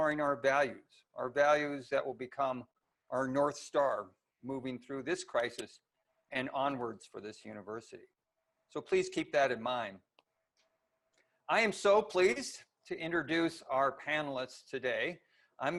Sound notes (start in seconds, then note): none